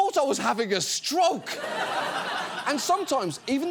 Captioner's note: studio audience laughs